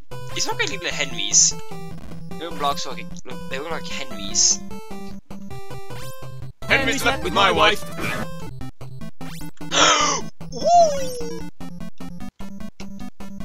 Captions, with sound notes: These look like little Henrys. The little blocks look like... look... They look like Henrys. HENRY SLEPT WITH MY WIFE eugh [G A S P] OOOOOOOOOOOOOOOOOOOOOOOH